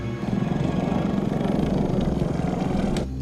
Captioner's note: suspenseful music; growling